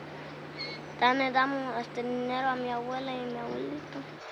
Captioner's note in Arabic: الصوت المنطوق باللغة الإسبانية